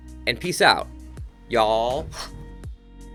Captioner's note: swoooop